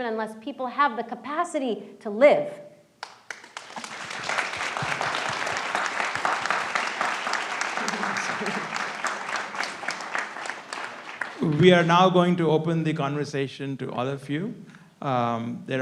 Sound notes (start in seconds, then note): 3.4 audience applauds